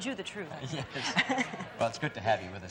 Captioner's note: laughs